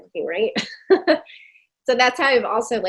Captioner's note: chuckling